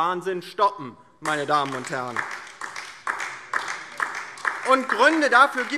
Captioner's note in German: Beifall DIE LINKE